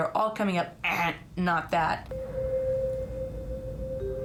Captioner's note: buzzer noise